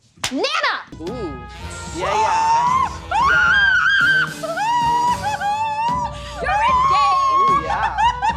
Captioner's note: sceams hysterically